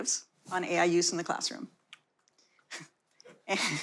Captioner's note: light audience laughter